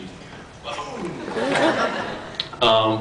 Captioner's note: laughs